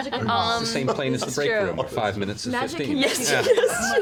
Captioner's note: laughing; laughs